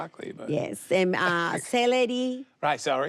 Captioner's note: laughs